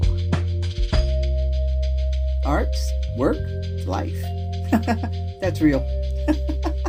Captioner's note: laugh